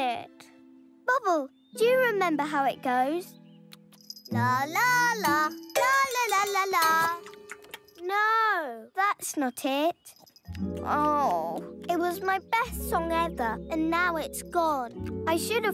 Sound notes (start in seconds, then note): 10.5 groans